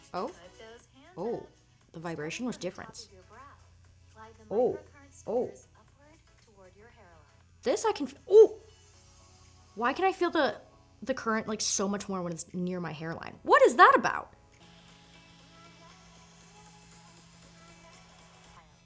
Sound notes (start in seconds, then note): 8.2 groans; 13.4 upbeat music